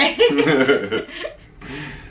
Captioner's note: laughing